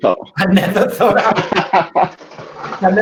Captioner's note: laughing; laughs